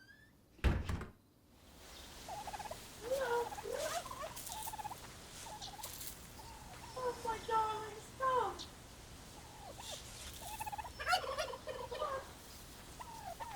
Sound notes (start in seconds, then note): 0.6 door creaking and latching; 2.1 turkey gobbles